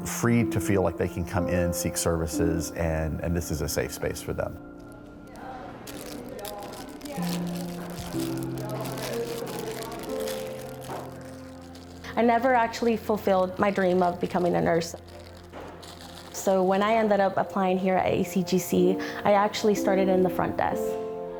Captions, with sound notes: free to feel like they can come in, seek services, and this is a safe space for them. (people chattering) (plastic crinkling) I never actually fulfilled my dream of becoming a nurse. So when I ended up applying here at ACGC, I actually started in the front desk.